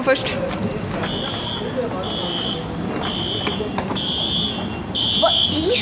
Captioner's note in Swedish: pip, pip, pip